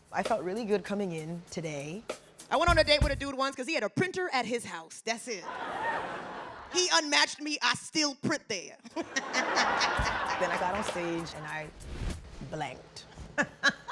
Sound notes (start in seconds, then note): 5.4 audience laughing; 8.8 laughing; 9.0 audience laughing; 12.6 laughing